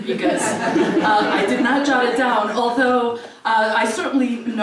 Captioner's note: laugh